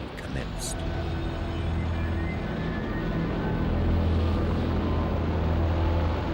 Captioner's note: plane engine roars